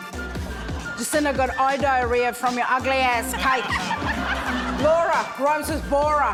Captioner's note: laughter